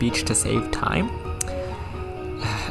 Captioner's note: lip smack